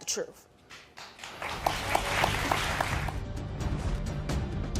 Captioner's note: audience applause